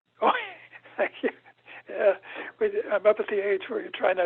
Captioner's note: chuckles